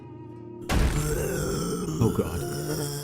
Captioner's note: excited zombie noises